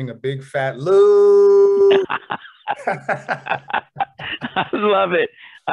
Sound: laughter

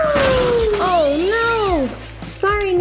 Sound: crashing sounds

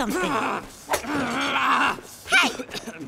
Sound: grunting

